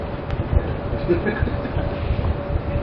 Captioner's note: Gülüyor